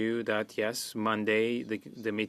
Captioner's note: speaking French